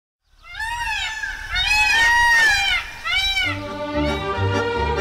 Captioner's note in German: Pfauenschrei